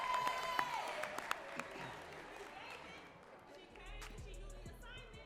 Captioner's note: audience cheering and clapping